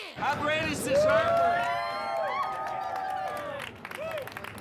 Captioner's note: cheering